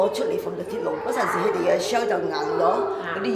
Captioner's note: Cantonese